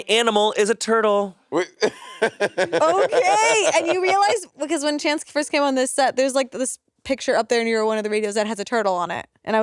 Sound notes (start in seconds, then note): 1.6 Monét laughing